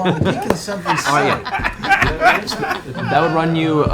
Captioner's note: laughter